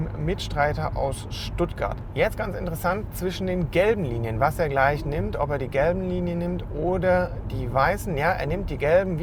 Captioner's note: road works